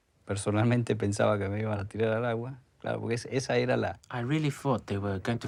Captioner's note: man speaking in foreign language